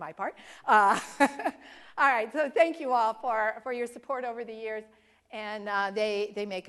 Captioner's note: laugh